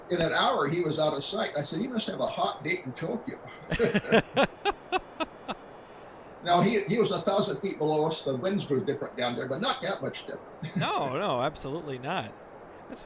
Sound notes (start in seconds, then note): 3.6 laughs